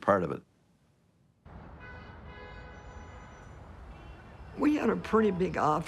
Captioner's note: traffic, car horns